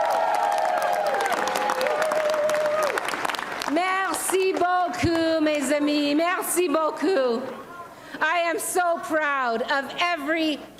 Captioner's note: applause and cheering